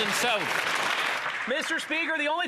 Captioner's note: some Applause